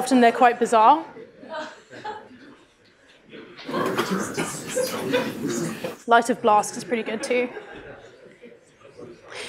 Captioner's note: laughter